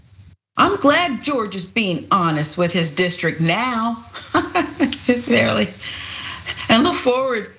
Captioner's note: laugh